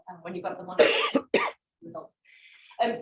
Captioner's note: coughs